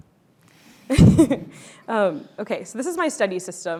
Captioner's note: chuckles